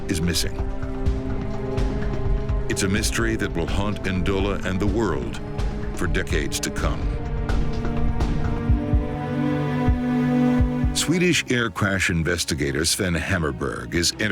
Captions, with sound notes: (jet whooshing) (jet crashes) A United Nations transport plane, the Albertina, is on a vital mission in Central Africa.